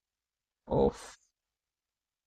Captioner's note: voice-over in English